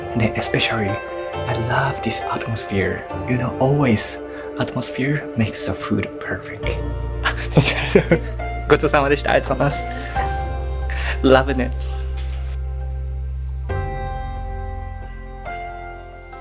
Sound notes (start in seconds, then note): 7.5 thanks host in japanese